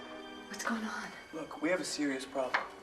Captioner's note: knocking on door